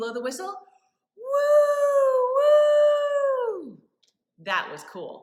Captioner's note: WOOooOOOH!